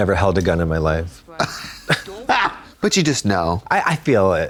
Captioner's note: blonde Women giggle